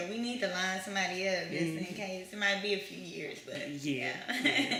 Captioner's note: laughs